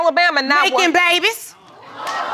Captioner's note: audience gasps